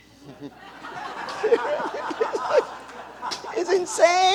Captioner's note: laughter